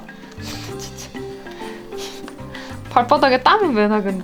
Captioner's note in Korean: 웃음